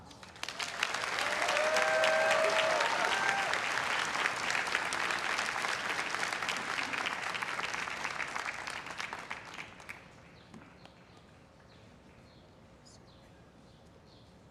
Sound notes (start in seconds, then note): 0.3 everyone cheering and applauding